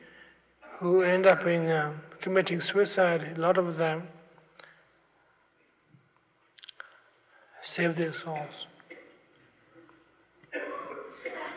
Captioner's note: laughter